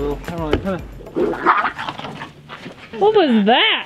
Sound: dog growling noise

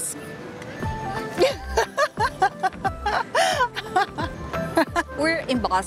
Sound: laughs

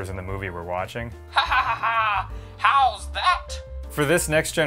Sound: maniacal laughing

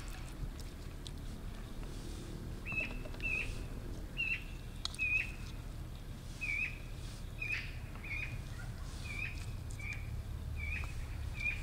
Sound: birds singing

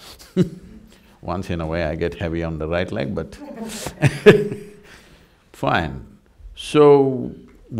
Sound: laughs; laughs

